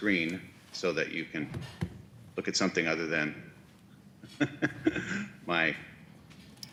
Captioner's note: laughs